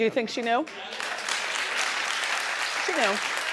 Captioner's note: audience clapping